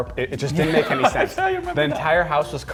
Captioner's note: laughing